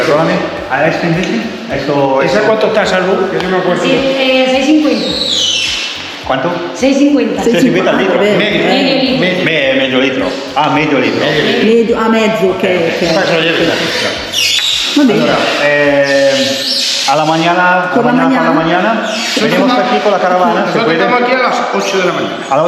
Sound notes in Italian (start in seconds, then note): 7.6 risate